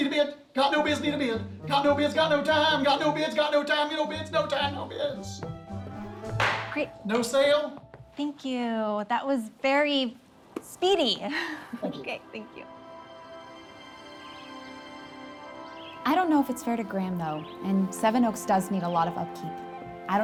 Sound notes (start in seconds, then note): 6.3 gavel bangs; 12.9 gentle music; 14.1 birds chirping